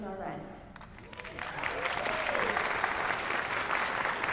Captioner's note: applause